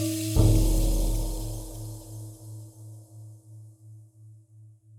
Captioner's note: gong reverberating